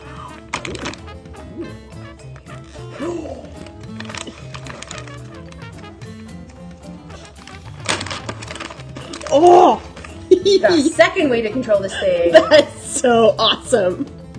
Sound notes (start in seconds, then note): 2.8 gasps; 12.3 laughter; 12.7 laughing